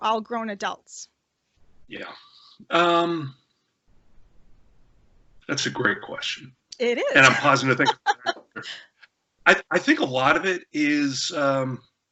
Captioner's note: laughter